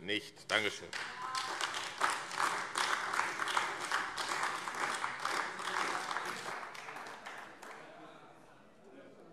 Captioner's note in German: Beifall AfD - Zurufe